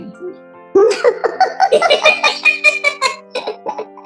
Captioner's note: laughs